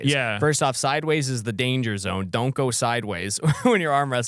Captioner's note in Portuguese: risos